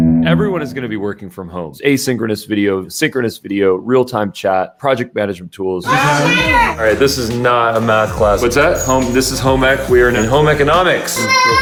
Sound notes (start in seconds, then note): 6.1 yelling